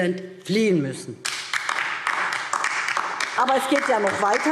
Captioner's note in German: Beifall DIE LINKE